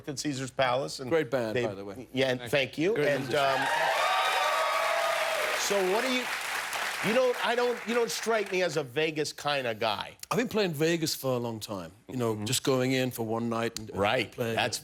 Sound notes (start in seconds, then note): 6.0 cheers and applause